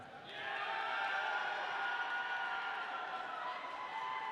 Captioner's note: audience cheering